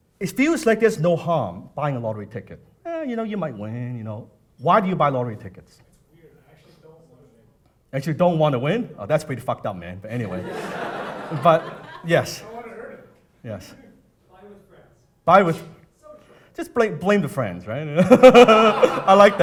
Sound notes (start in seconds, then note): 10.2 audience laughing; 18.0 everyone laughing